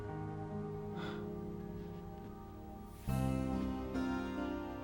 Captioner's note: sighs